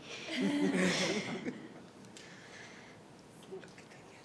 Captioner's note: group chuckling